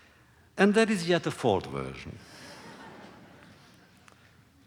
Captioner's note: laughter